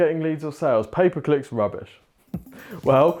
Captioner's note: chuckles